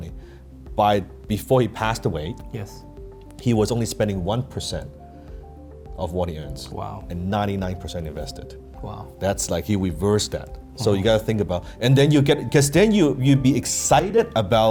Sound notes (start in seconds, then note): none